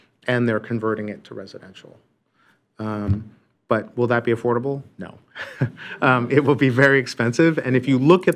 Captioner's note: laughter